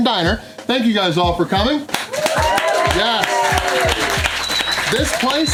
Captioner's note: crowd clapping and cheering